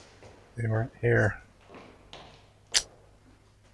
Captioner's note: tsk